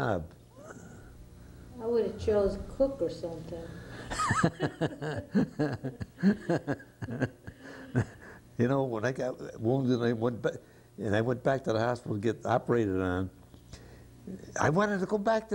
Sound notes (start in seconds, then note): 7.2 laughter